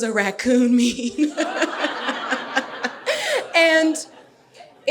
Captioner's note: laughing; audience laughing